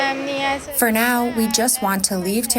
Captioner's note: through translator